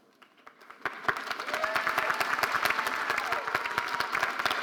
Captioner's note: audience applauding